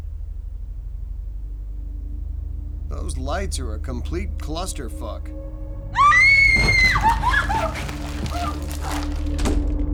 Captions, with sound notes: (tense music) Those lights are a complete clusterfuck. (Jenna screaming)